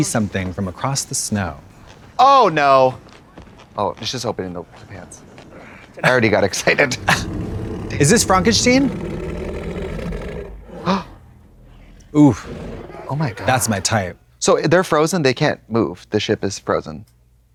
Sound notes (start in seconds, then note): 10.8 Trixie gasps